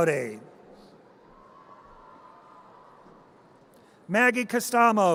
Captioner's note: audience cheers